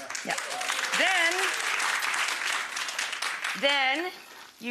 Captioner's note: audience applauds